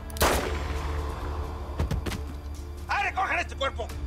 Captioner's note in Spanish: Disparo